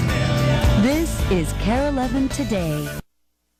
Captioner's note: voiceover